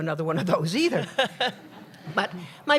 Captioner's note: laughter